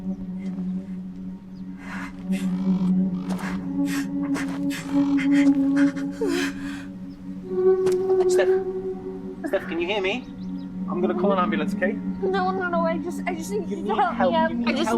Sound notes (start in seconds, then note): 0.1 crow caws; 0.1 eerie music playing; 3.2 Stef breathes shakily